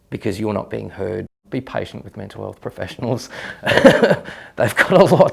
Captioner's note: laughs